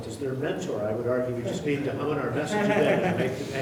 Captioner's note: laughing